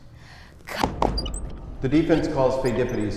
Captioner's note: Law & Order-esque transition sound interrupts; wheels squeaking